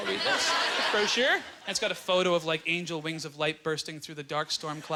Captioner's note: audience laughter